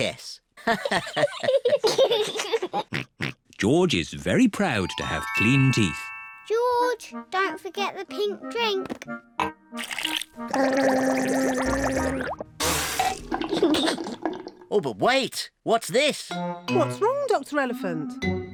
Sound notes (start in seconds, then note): 0.6 all laugh; 10.4 gargles